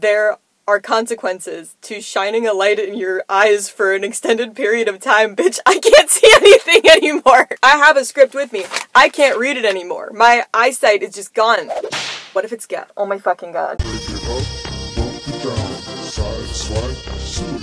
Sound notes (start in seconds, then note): 11.7 whip sound effect; 13.8 funky Music